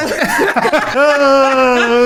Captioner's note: laughing